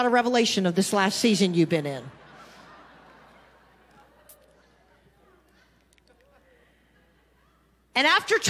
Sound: congregation laughing

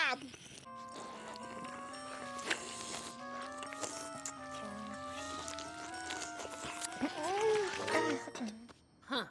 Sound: slurping

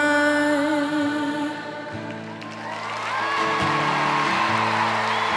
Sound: cheering and applause

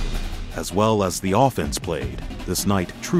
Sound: voiceover

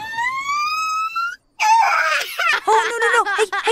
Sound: crying noises

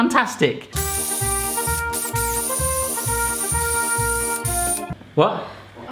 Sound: exciting music; whirring

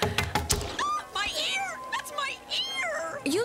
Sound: knife chopping; screams

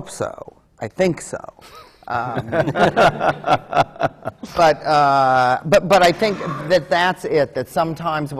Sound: laughter

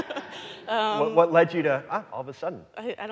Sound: audience laughing

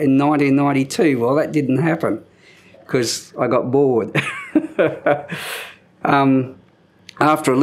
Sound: chuckle

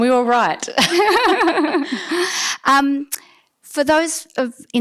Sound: laughter

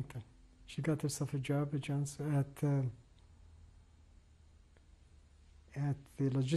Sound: pauses for 3 seconds

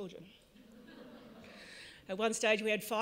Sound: audience laughs

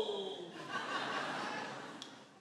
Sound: laughter

